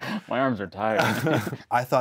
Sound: chuckles

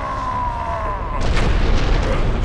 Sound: crash; screams of agony

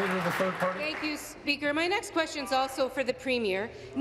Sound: applause

